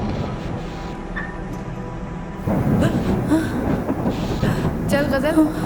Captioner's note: thunder Rambling